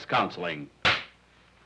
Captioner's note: slate snaps